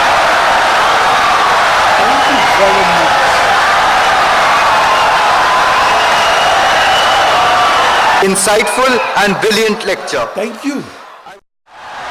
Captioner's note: wild applause and cheering for 17 seconds